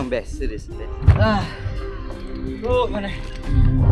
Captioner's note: sigh